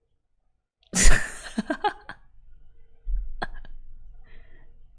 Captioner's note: laughs